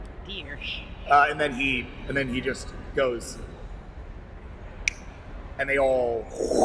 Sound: snaps; whooshing

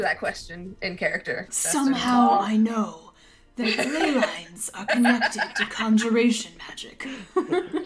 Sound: Esther: imitating Ember's voice; laughter

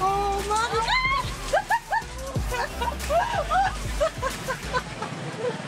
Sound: laughs

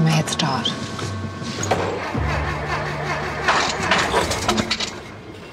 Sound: starter motor whirrs

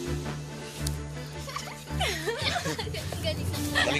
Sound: laughing

